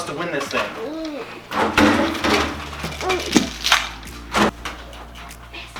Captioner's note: groans and loud clanking